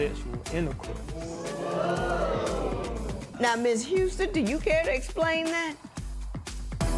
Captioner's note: spectators murmur